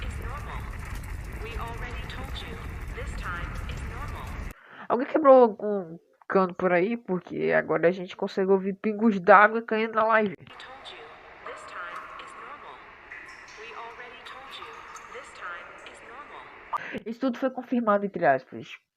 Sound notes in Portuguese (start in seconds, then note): 13.1 Sons de água